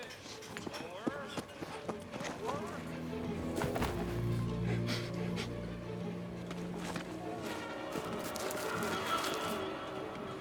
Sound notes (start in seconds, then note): 3.9 Walter sniffing; 7.5 dramatic music